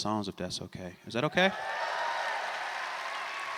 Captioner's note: applause